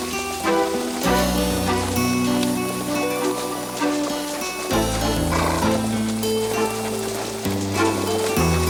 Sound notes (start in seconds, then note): 5.3 horse snorts